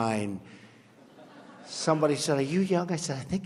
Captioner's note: laughter